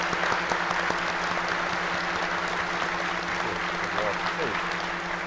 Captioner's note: audience applauding